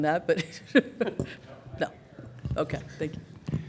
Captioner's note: laughter